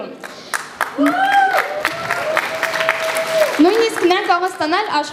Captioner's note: applause